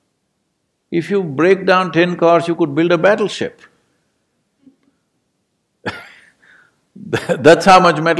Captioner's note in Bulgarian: Смее се